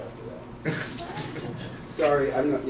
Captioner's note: laugh